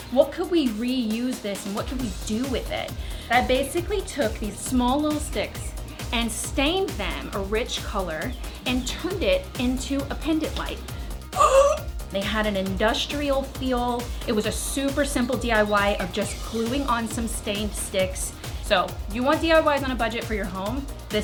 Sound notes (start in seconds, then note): 11.0 gasping